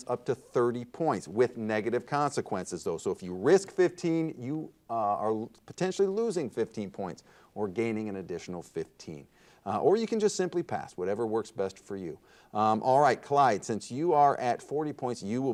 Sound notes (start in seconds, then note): none